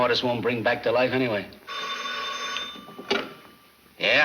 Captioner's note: phone rings